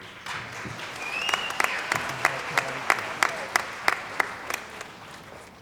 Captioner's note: cheering & Applause